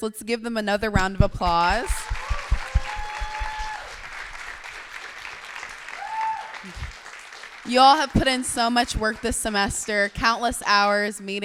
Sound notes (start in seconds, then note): 1.8 clapping